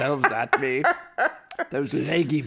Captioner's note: cackles